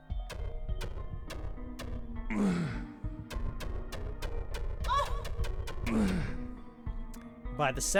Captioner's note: miscellaneous grunts and noises